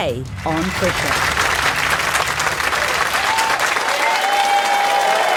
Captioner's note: audience applauding